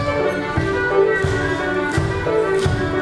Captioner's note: none